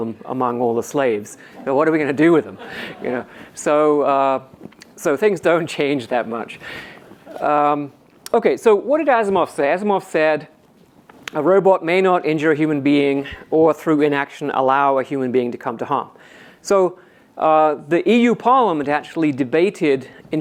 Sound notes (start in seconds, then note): 3.1 audience laughs